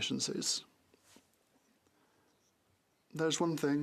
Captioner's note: french